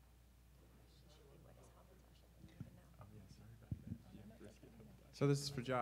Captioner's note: speaking away from mic